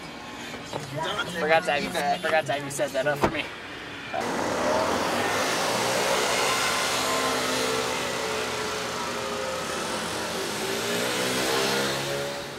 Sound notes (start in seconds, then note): 1.3 car door shuts; 4.5 scooters driving